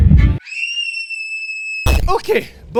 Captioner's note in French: cri de petite fille